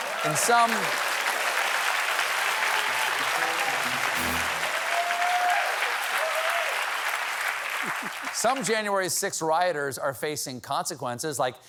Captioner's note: applause